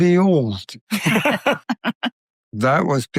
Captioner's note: all, laughter